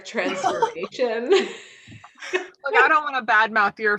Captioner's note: both laughing